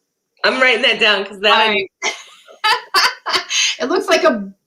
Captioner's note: laughter